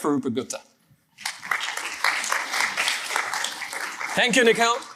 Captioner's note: applause